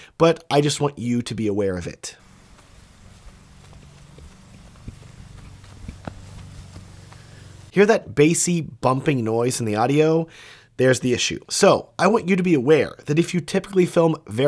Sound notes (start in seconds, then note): 2.2 audio humming; 2.2 footsteps thudding softly